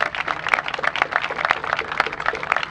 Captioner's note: applause